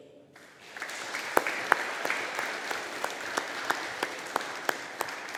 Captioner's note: audience applauding